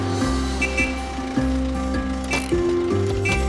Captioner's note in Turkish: Korna çalıyor